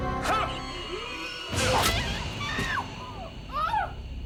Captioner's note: dramatic music; Kate screams; ominous music